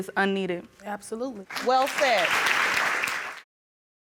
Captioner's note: audience applauding